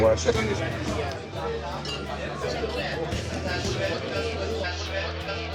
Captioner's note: bar patrons chattering